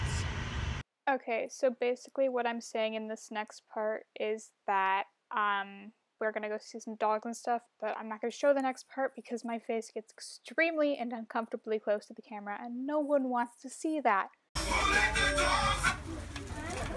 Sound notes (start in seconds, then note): 0.8 voice-over